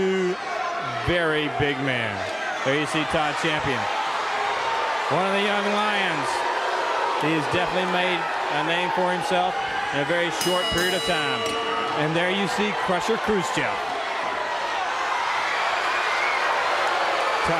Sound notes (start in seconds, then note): 10.2 bell ringing; 14.3 crowd cheering